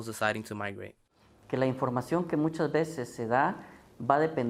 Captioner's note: speaking Spanish